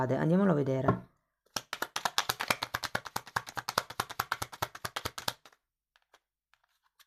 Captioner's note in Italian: Applauso